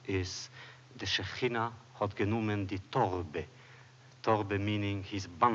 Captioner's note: Yiddish